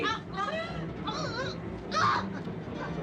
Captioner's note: Berteriak